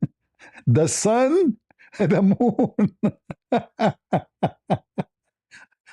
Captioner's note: ketawa